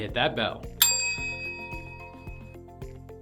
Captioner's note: bell dings; upbeat music